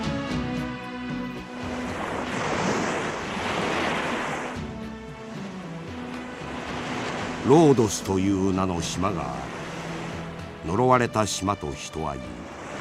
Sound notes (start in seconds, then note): 2.4 SFX: waves